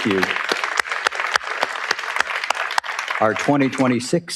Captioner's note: audience applauds